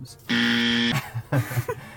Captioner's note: buzzer buzzing; both laugh